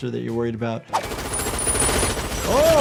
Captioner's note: machine gun firing